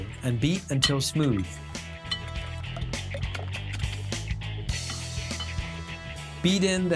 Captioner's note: whisking